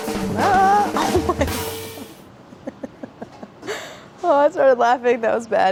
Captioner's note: laughs